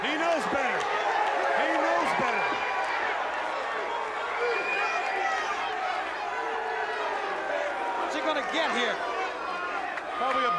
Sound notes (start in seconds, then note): 2.6 crowd chatter